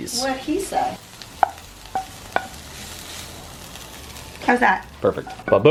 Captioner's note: food sizzling